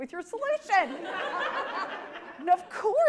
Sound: audience laughs

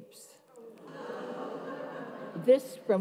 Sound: audience laughs and moans

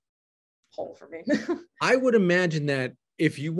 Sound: laughing

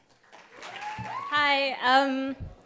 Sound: applause and cheer

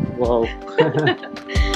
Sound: chuckles

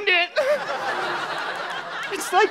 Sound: audience laughter

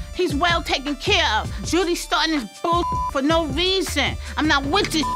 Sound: beep

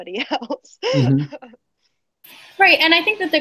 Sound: laughing

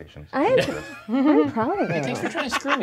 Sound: co-hosts laughing

